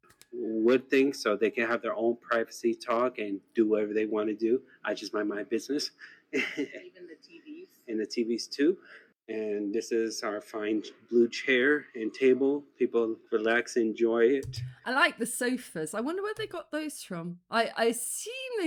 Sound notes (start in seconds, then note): 6.3 laughing